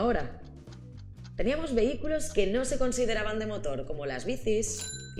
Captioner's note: clock ticking